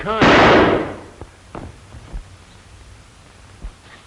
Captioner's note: gunshot